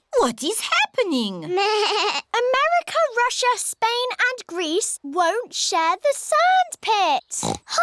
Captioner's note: bleats; oinks